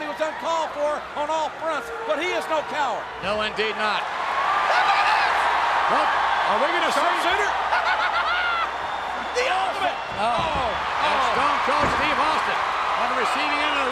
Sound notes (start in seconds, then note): 4.3 audience cheering; 7.7 Jerry laughs